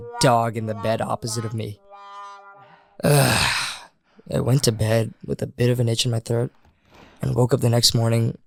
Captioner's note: exasperated sigh